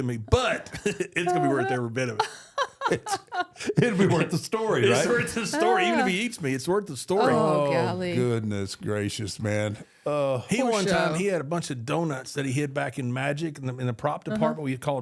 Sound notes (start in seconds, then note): 2.1 laughing